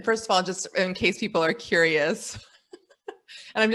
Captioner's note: laughs